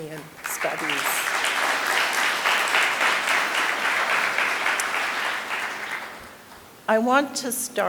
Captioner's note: applause